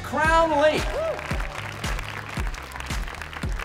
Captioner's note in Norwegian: jubel og applaus